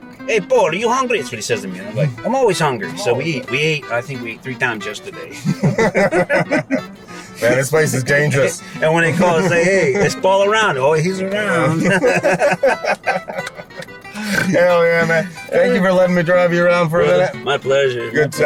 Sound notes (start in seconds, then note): 11.5 both of them laugh